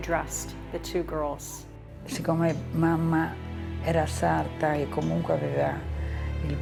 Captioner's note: speaking in foreign language